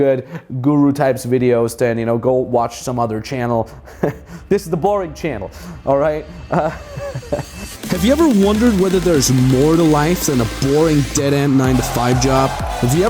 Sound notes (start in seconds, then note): 3.7 chuckles; 6.3 chuckles; 8.0 voiceover